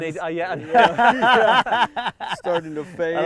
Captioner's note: laughing together